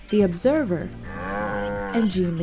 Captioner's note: cow mooing